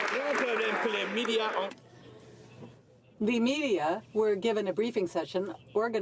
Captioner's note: some Applause